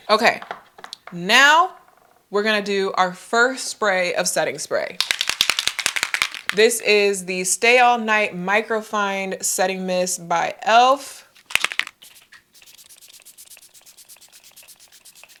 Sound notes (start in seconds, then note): 5.0 spray can rattles; 12.5 spray hisses